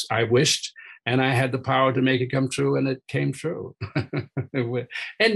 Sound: chuckling

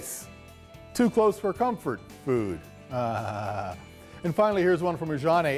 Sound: laughing

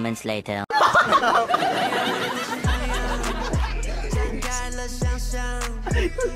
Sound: laughing at cute mistake during「BoyWithLuv」

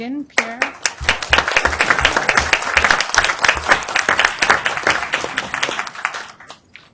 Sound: audience applauds

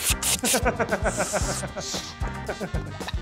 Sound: realisitic and convincing lighter sound effects; inhaling

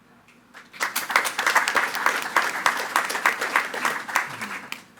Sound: attendees clapping

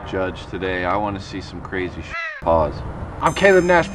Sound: crow caws

